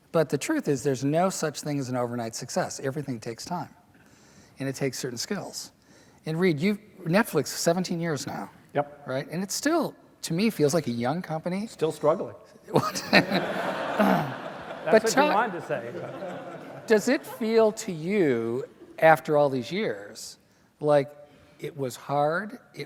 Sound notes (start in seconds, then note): 12.7 laughter